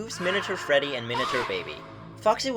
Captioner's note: second reverberated, cut-off scream; reverberated, cut-off scream